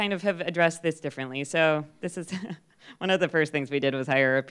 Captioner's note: laughs